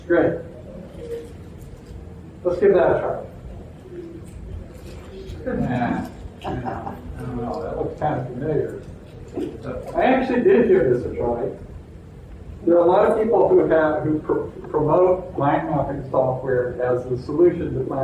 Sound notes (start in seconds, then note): 5.3 chuckling